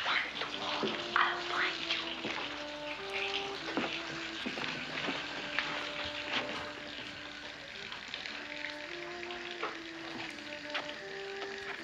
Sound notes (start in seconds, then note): 3.3 splashing